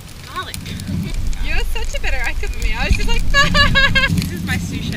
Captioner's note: laughs